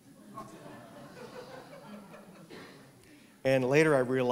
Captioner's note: laughter